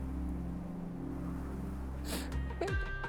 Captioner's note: sniffs